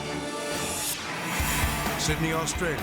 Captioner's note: air whooshes